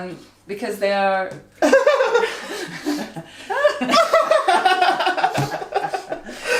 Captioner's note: vocalises angelically; all laugh; laughter continues